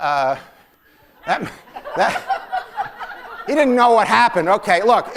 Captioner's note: laughter